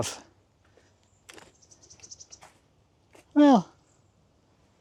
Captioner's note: birds chirping